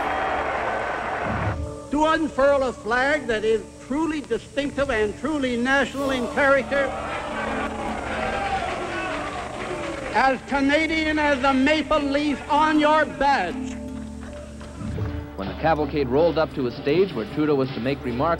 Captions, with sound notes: [crowd roars] To unfurl a flag that is truly distinctive and truly national in character-- [crowd jeering] As Canadian as the maple leaf on your badge. Reporter:When the cavalcade rolled up to a stage where Trudeau was to make remarks